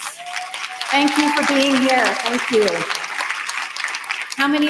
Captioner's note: applause